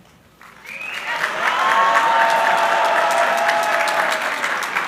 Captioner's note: crowd cheering